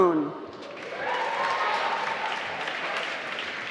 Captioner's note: applause